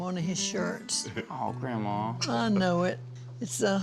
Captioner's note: says softly